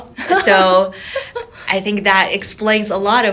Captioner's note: laughing